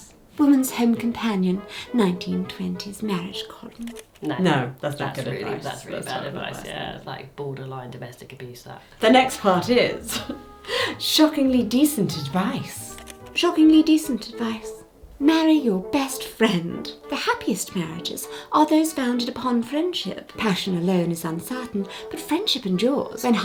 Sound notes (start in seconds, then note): 10.0 chuckles